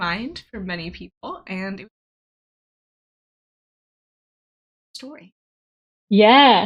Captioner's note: audio cuts out